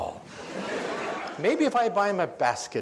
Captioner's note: audience laughs